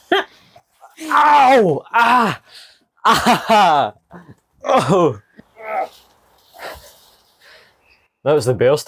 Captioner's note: laughter; groaning noises